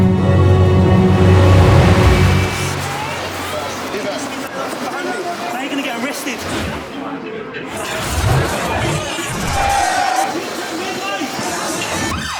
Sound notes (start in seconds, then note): 2.3 loud city noises; 8.2 city noises, shouting, club music, police siren